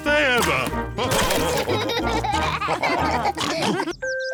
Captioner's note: all laugh